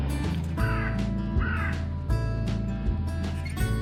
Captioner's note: crow noises